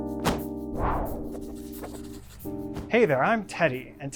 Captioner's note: upbeat music; slogan swishes